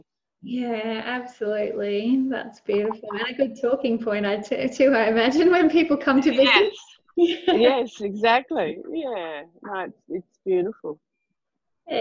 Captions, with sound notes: - Yeah, absolutely, that's beautiful. And a good talking point I'd say to I imagine when people come to visit. (laughing) - Yes, yes exactly. It's beautiful